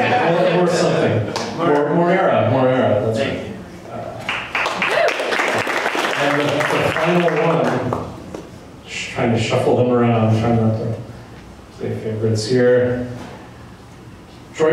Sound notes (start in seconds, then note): 4.2 applause